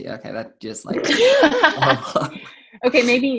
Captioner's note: laughs